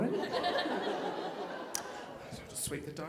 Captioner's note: audience laughing